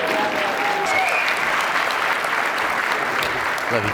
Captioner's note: applause